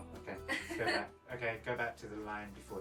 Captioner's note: laughing